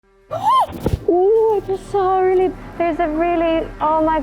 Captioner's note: gasps